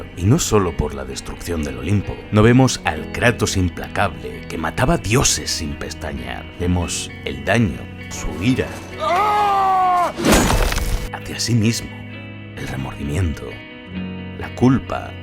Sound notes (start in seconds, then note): 9.0 screams